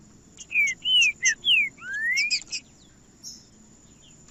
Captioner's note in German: trinca ferro cantando